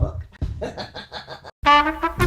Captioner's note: laughter; hold music